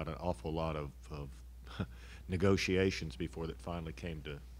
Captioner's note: laughs